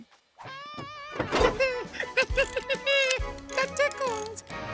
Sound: giggling

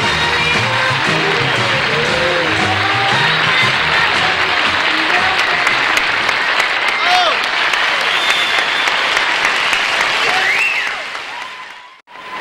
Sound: applause

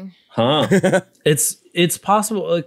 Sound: laughs

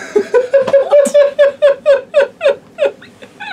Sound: laughs

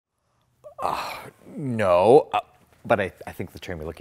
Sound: scoffs

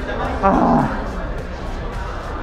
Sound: sighs

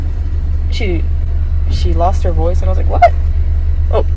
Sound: voice crack

